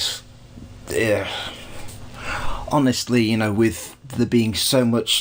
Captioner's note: sighs